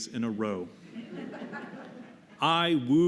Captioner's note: laughter